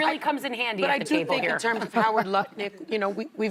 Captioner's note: laughter